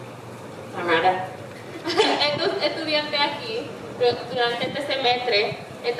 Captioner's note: speaking in foreign language